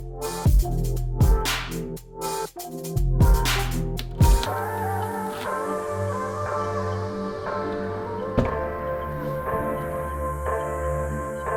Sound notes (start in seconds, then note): 0.2 electronic music continues; 3.7 unlocking doorlock; 7.3 door opens